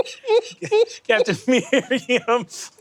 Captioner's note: giggling